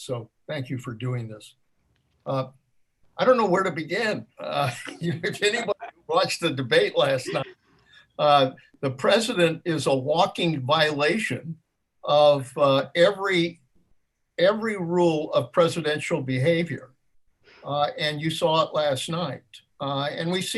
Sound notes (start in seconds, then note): 4.4 laughs